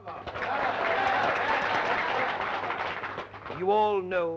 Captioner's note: audience applauding